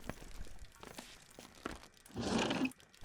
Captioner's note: window opens